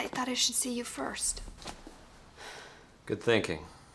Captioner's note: sighs